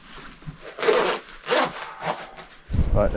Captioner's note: zipper grinding